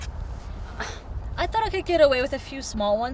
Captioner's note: grunts